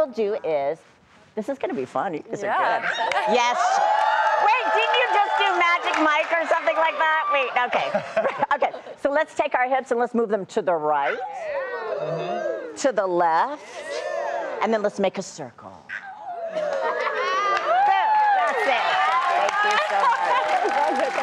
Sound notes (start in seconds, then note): 3.9 applause; 16.5 laughter; 17.5 applause